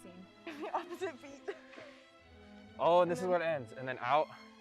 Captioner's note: laughs